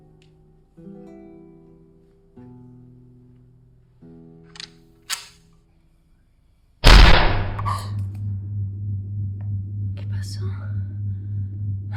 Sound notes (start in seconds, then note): 6.8 gunshot